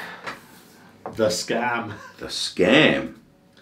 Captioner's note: chuckles